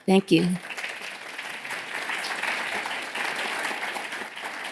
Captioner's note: applause